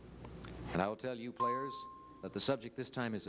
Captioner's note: bell ding